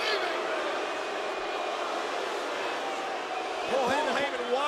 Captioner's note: crowd booing